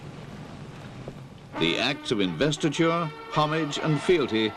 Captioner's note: voiceover